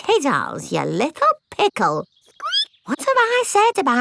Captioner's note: squeaks